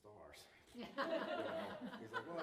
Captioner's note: laughter